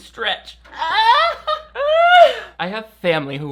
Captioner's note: laughing